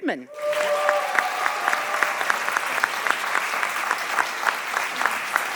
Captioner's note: audience applauding